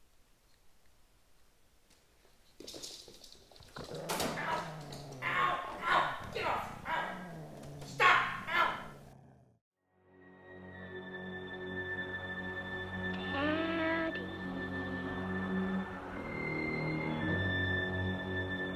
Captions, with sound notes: [dog growling and man screaming] get off ow stop ow daddy